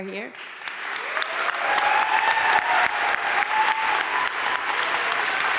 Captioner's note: crowd cheering and applauding